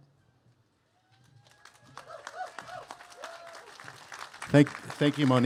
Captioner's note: cheers and applause